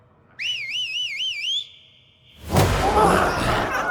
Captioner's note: Darlus whistles; dramatic music; glowzies growling